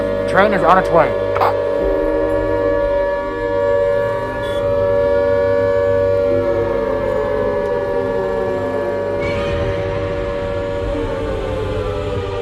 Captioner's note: Sirens and Godzilla roaring in the background